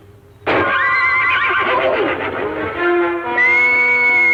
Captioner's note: pop